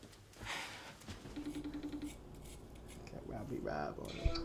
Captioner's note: phone beeping